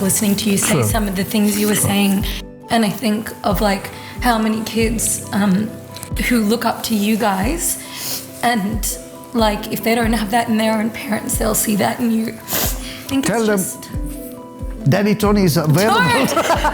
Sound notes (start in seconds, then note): 7.9 Maria sniffing; 12.4 Maria sniffing; 15.8 laughing